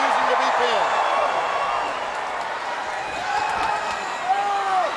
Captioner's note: audience cheering